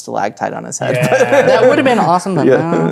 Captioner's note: chuckles